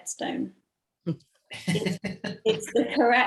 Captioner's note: laughs